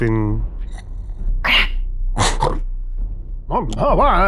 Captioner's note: snoring